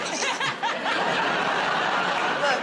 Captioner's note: laughter